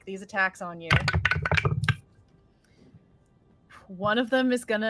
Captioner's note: dice rolling